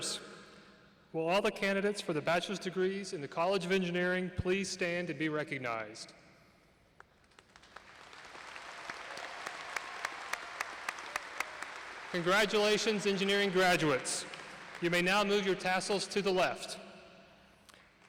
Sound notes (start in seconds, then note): 14.0 applause